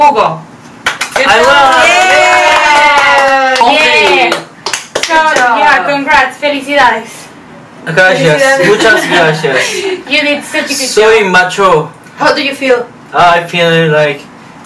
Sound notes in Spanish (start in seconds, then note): 5.0 aplausos